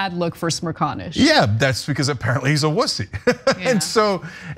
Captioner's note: laugh